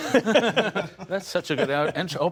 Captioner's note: laughter